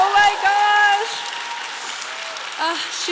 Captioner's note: applause